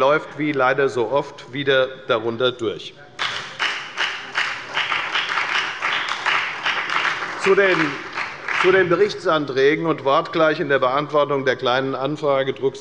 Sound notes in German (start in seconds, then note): 3.2 Beifall bei der FDP sowie bei Abgeordneten der SPD und der LINKEN